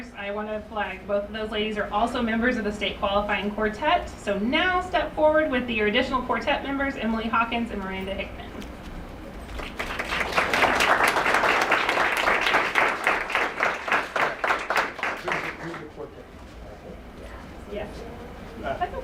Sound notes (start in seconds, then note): 9.5 applause